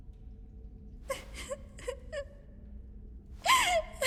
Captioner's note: sobbing quietly